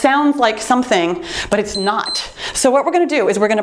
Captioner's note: timer beeps